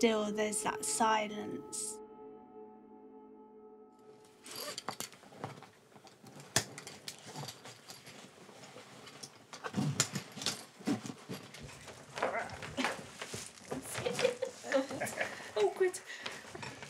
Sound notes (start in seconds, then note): 7.3 zipper unzipping; 9.9 straps tightening; 12.4 grunting and laughing